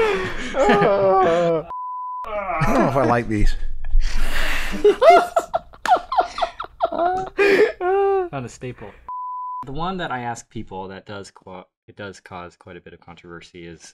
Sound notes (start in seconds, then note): 0.4 laughter; 4.7 laughter